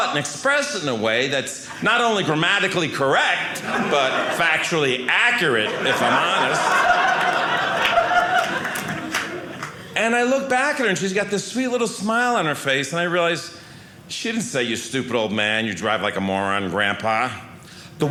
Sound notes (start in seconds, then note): 6.9 audience laughing